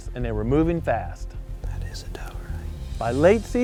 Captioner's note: whispering